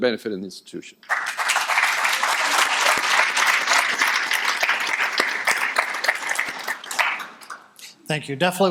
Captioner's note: audience applauding